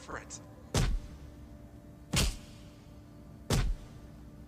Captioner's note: loud pounding